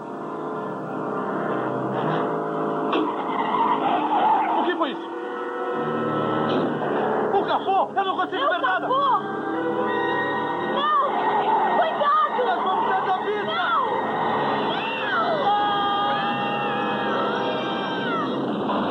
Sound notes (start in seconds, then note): 1.5 tires screeching; 13.4 screaming